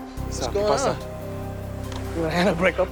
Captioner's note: speaking Spanish